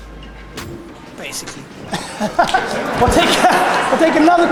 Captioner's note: audience laughter